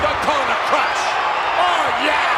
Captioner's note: audience cheers